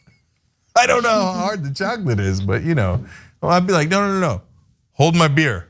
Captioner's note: laugh